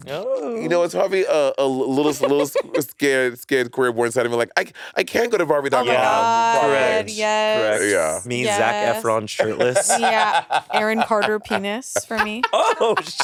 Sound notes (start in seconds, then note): 2.0 laughing; 8.6 Monét laughing